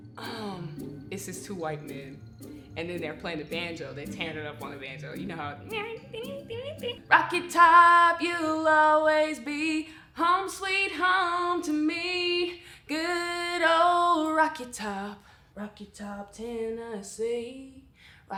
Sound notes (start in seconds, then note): 6.2 imitates banjo